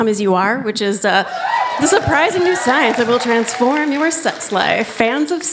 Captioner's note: cheers